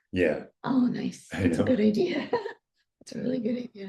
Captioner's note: laughs